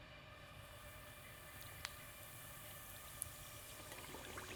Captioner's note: oil bubbling